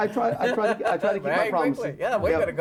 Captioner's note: laughing